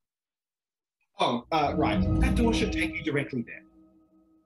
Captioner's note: ethereal Woosh